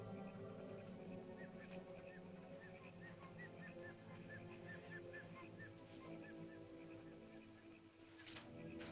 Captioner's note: ominous music; chirping sounds; ominous music